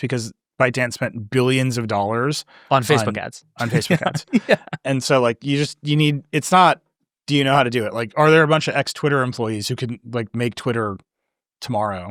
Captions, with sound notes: because ByteDance spent billions of dollars, - On Facebook ads. (chuckles) - On Facebook ads. And so you just, you need, it's not, do you know how to do it? Like, are there a bunch of ex-Twitter employees who can make Twitter tomorrow?